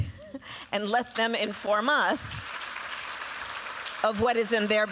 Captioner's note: applause